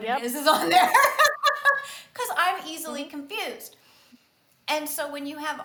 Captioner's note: laughs